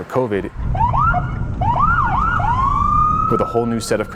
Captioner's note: siren